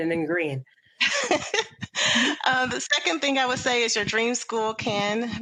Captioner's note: laughs